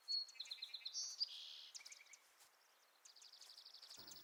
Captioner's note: birdsong